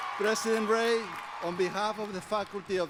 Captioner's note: applause